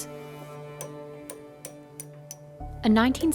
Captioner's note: hammering